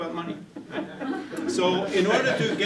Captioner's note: laughter